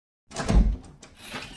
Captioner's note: door opening sound